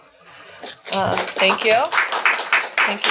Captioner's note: students clapping